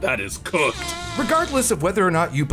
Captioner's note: Dunk farts